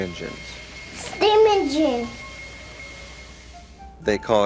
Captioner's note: engine steams